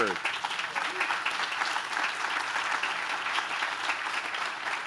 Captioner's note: audience claps